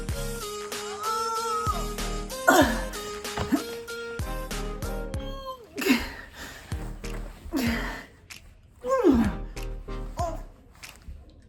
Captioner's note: sounds of struggling